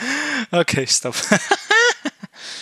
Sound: laughing

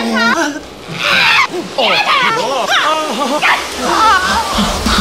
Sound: both yelling

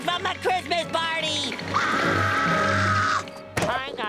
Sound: screaming

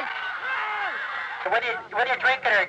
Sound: crowds cheering; man speaking through a megaphone

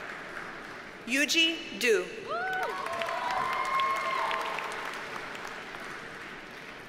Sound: audience cheers and applauds

